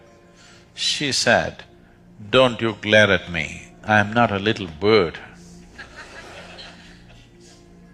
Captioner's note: laughter